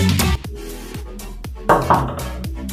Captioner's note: knocking on the door